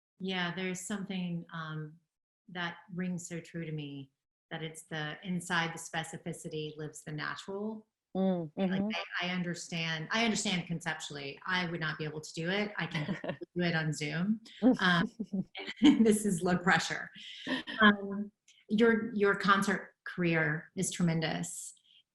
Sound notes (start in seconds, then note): 12.9 laughing